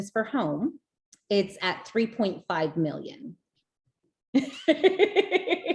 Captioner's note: laughs